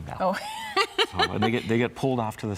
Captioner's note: laughs